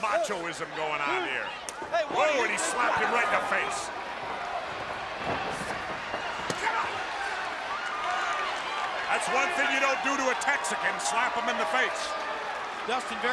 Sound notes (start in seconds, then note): 4.8 crowd chatter